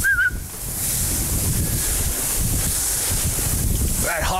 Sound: whistles

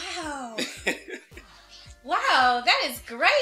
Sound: laughs

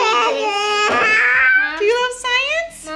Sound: babbling

